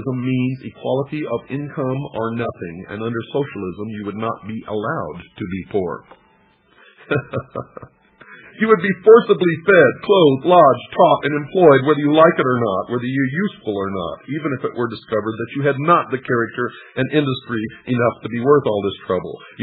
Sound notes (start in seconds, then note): 6.9 laughter